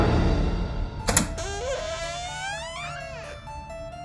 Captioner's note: door creaking